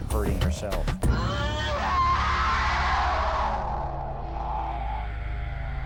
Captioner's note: screaming